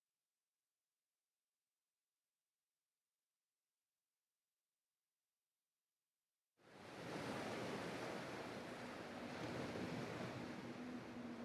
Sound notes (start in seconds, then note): 7.0 water whooshing